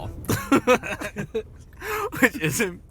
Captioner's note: both laughing